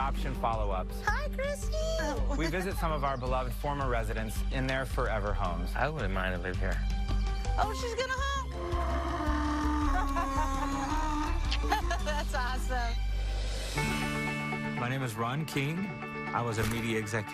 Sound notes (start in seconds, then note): 8.2 donkey braying; 10.5 laughing